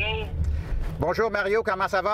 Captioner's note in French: au téléphone